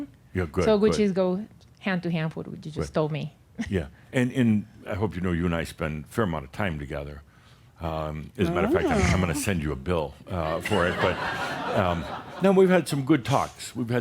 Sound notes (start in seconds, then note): 10.4 laughter